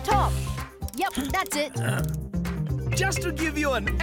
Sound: Chege grunts

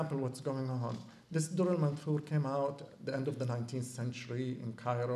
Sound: non-english

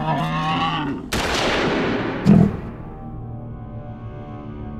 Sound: gun banging

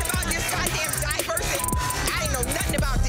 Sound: beep

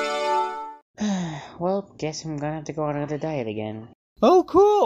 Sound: sigh

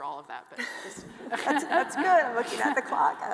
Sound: all laughing

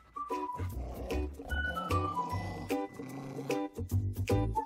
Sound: upbeat music; dog growling

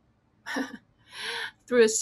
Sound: laughs

